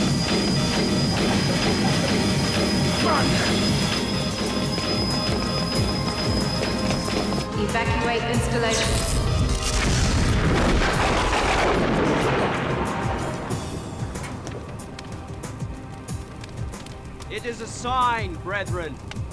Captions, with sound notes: - Run. - Run. - [Female Electronic Voice] Evacuate installation. (thunder crashes) (dramatic music) - It is a sign, brethren.